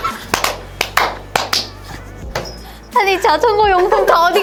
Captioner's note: laughter